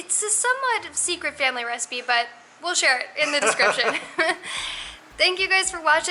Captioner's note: laughter